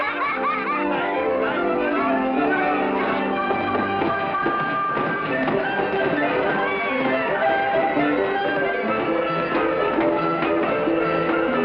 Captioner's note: all laugh